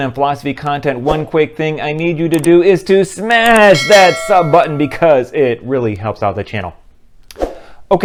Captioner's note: bell